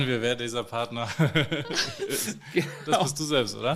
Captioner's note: laughter